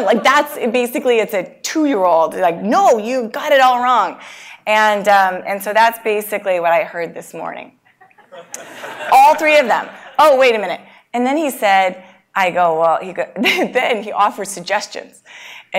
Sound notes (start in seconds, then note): 8.0 laugh; 12.9 laugh